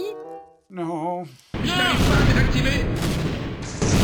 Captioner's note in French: explosions